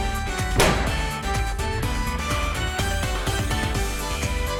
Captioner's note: boooom!!!!